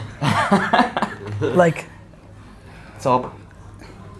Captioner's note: laughing